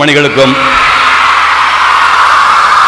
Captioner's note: deafening applause